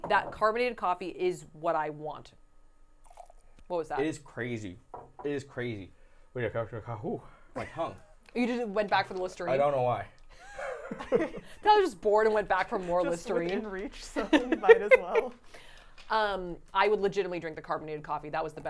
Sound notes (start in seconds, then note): 6.8 speaking gibberish